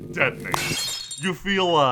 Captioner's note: glass shattering